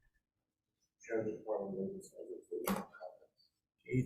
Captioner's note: DOL spokesman speaks off mic